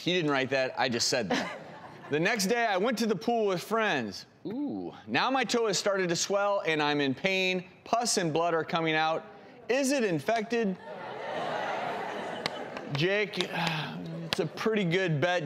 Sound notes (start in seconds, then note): 1.3 woman laughing; 10.9 audience roaring